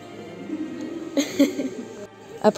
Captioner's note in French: rire